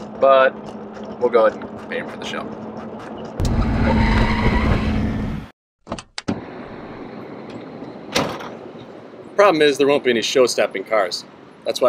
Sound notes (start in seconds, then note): 3.4 tires screech; 8.1 door slams